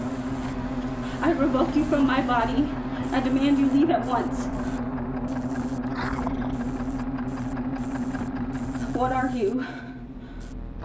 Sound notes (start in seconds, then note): 5.3 chittering